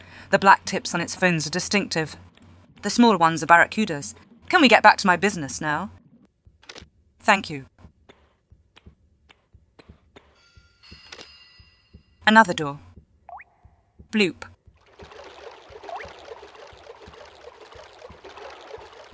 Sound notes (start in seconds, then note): 13.2 sound of water drop; 14.4 sounds of Lara walking in the water